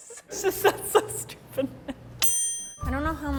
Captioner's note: timer dings